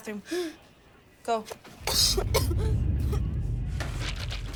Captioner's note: Mayday coughing